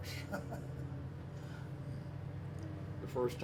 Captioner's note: laughs